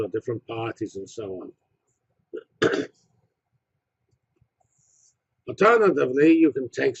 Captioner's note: cough